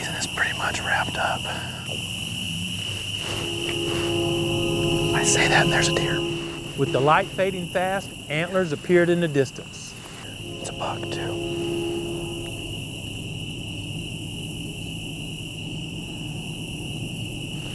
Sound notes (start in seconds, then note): 9.5 whispering